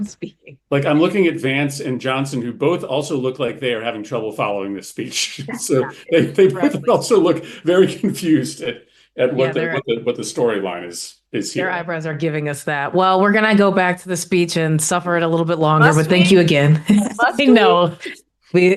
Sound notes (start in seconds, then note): 9.3 laughter